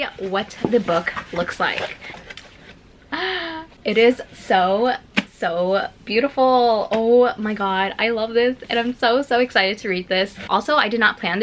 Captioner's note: gasp